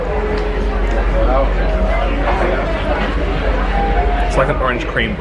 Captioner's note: people talking distantly